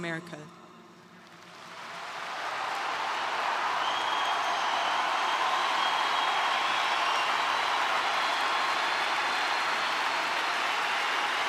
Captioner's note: applause